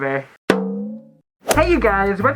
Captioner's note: boing